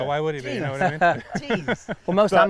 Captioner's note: laughing